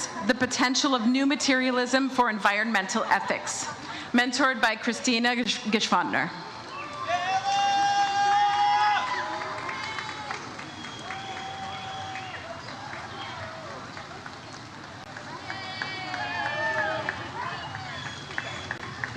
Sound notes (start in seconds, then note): 7.0 audience cheers